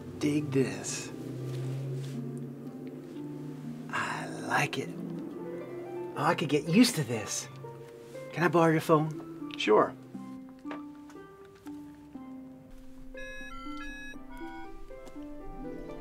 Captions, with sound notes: dig this I like it I could get used to this can I borrow your phone sure *phone dialing*